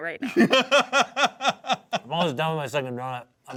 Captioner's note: laughs